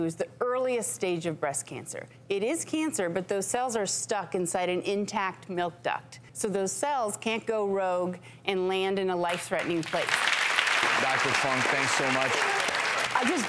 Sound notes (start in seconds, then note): 9.6 applause